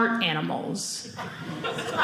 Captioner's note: audience laughing